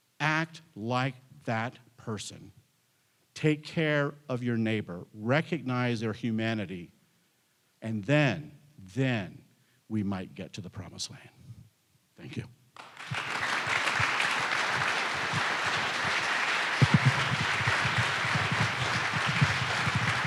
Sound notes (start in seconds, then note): 12.8 audience applauding